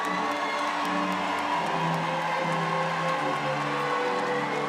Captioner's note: cheering and applau